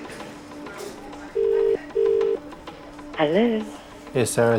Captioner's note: phone ringing